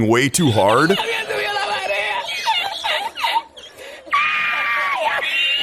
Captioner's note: exaggerated laughter